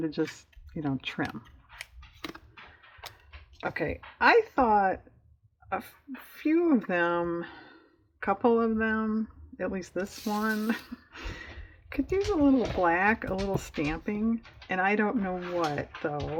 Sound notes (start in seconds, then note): 10.8 laughs